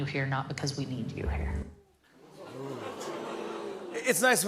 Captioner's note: audience "Oohs"